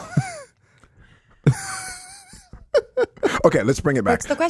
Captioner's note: Justin and Jamey laugh